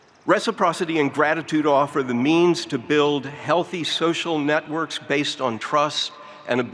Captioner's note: none